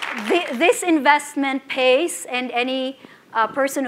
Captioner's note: applause